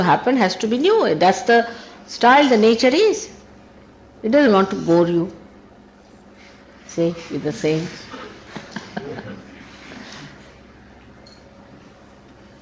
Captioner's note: laughing